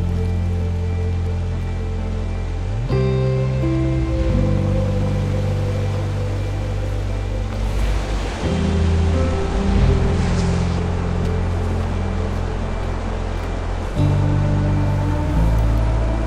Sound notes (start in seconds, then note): 0.1 river flowing; 3.3 gentle music; 4.8 river flowing